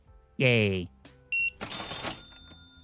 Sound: beeping

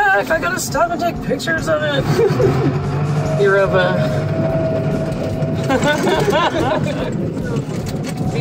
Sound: laughter

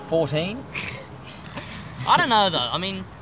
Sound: group chuckles

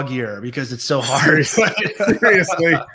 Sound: laugh

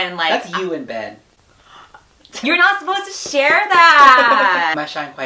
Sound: gasps; laughs

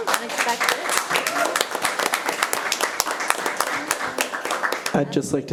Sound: audience applauding

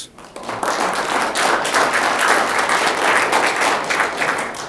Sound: audience clapping

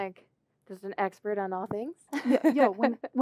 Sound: laugh

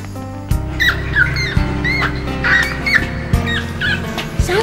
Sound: rat squealing

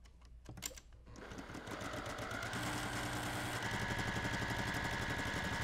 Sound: sewing machine whirring

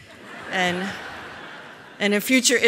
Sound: laughter

